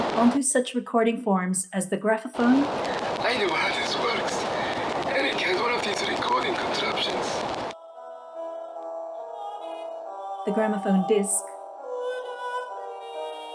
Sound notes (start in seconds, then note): 0.0 crackly phonograph; 2.2 crackly recording